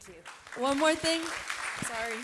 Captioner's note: audience applauding